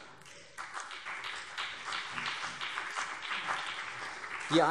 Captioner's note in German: Beifall CDU und BÜNDNIS 90/DIE GRÜNEN